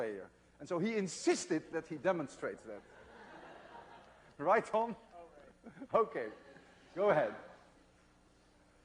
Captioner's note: laughter